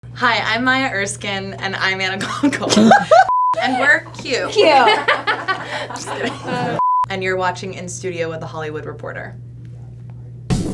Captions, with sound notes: - Hi, I'm Maya Erskine. - and I'm Anna Konkle (laughs). And, we're cute. - Cute. (crew laughing) - And you're watching In Studio with The Hollywood Reporter.